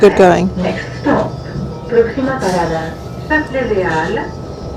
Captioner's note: announcement in multiple languages